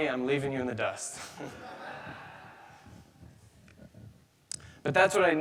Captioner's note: audience laughing